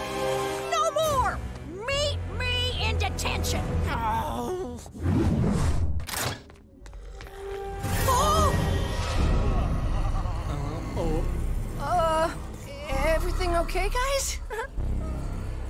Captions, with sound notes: No more! Meet me in detention! [groaning] [gasping] [groaning] Uh, everything okay, guys?